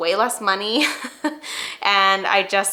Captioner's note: chuckling